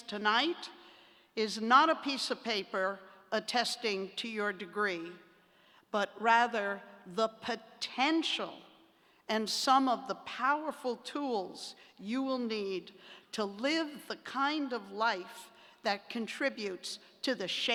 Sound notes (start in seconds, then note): none